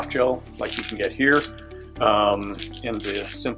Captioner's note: pills rattling